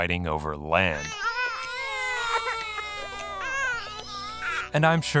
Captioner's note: babies crying